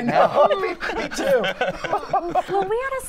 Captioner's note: laughter